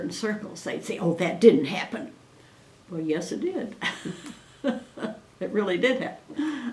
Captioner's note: laughs